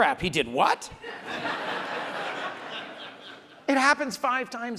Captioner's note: audience laughs